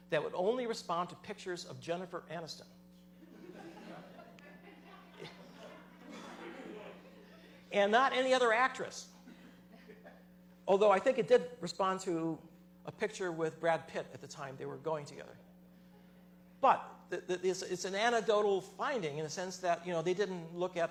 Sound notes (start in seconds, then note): 5.0 laughter